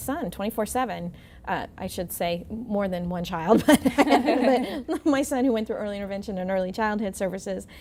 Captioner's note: laughing